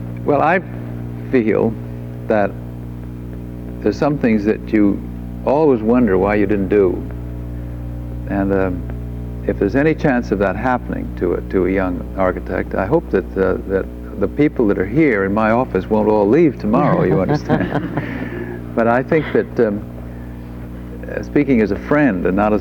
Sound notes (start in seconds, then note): 16.7 group laughs